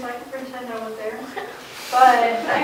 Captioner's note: laughing